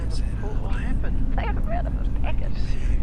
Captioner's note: man On Radio